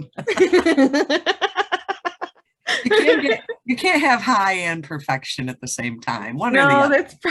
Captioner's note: both laugh